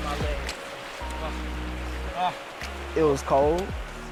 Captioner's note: moaning